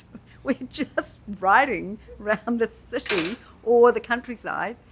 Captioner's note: clatters